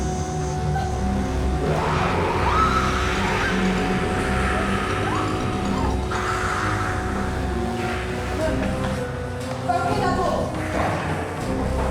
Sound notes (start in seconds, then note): 1.0 all screaming; 4.7 dramatic music